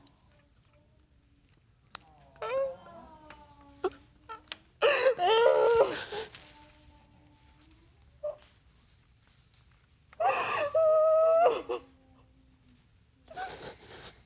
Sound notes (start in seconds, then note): 11.7 sniffling